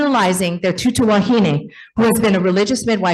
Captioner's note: speaks in foreign language